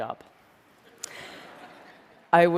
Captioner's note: laughter